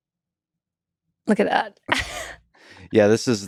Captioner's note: laughs